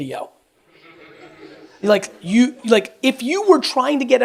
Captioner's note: audience laughs